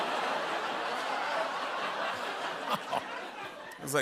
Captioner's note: laughter